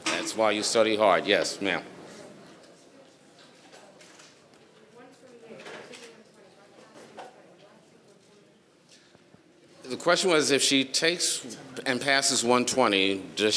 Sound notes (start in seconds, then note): 8.1 speaking faintly